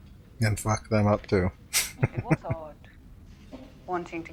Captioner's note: chuckling